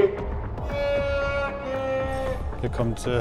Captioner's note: distant shout